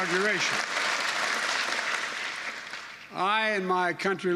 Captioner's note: applause